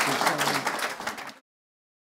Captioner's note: crowd applauds